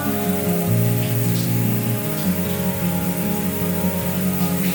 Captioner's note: shower splashing; moaning